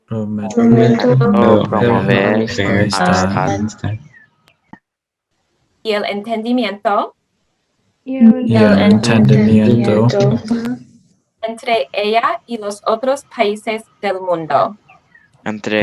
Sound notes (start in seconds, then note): 0.2 group speaking Spanish; 6.0 speaking Spanish; 8.2 group speaking Spanish; 11.7 speaking Spanish; 15.6 group speaking Spanish